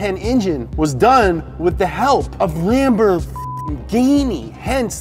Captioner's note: beep